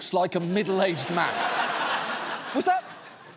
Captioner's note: audience laughs